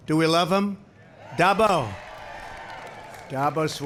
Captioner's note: applause